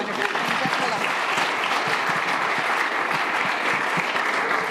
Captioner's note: audience applauding